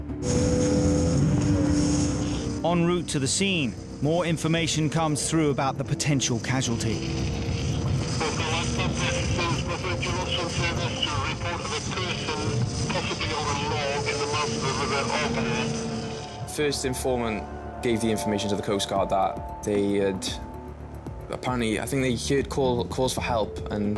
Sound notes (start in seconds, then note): 0.3 engine whirring; 7.9 radio